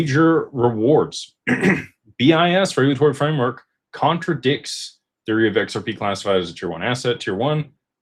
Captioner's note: clears throat